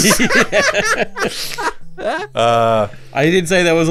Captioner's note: laughing